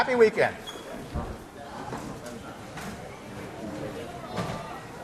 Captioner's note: class murmur